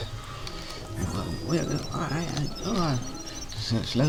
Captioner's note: alarmed gibberish